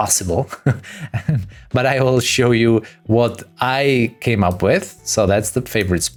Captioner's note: laughs